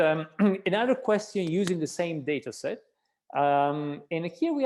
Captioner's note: clearing throat